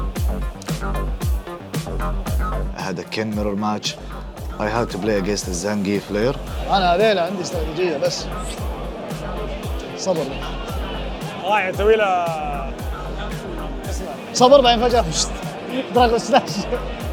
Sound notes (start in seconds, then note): 6.6 in Arabic; 6.9 whistles